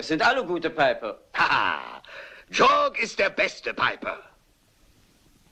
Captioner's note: laughs